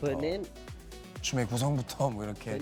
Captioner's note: speaking Japanese